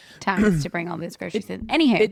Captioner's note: clears throat